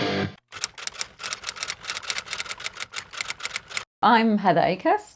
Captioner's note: typewriter clicking